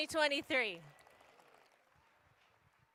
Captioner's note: applause